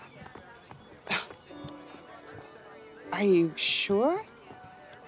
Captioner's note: laughs